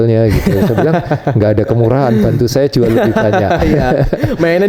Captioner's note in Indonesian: tertawa